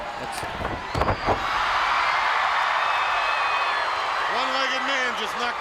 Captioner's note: fans cheering